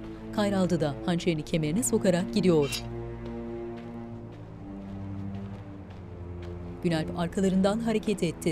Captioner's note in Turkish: Müzik - Gerilim; Ayak sesleri